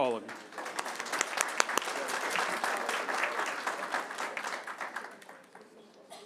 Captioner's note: applause